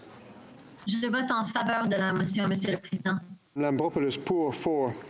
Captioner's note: speaking FRENCH